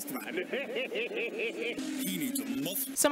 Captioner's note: Ed cackling